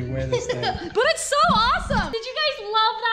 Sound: laughter

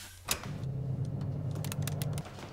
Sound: oven fan spins

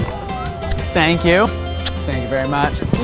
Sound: kissing

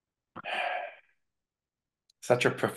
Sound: sighs

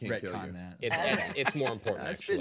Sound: man laughing

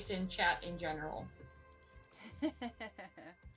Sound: laughter

